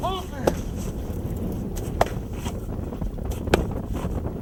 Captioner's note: air whooshing